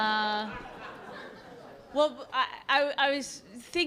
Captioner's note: laughter